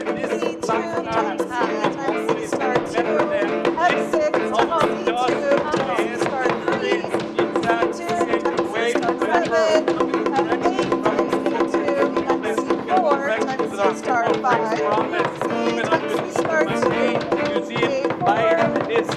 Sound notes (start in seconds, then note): 11.6 people speaking altogether indistinctly